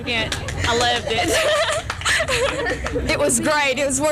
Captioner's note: laughs